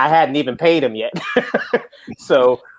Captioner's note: laughs